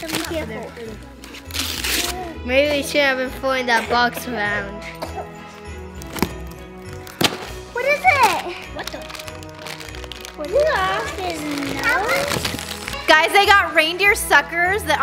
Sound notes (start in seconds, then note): 4.7 kid coughing; 4.8 joyful Christmas music; 10.3 kids chattering